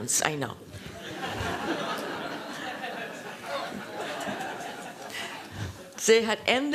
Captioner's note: laughter